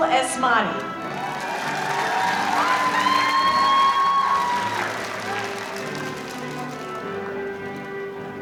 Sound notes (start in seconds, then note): 0.9 audience applauding